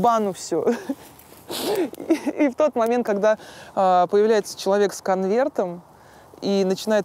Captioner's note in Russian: смеётся